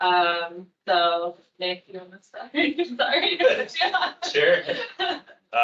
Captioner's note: laughing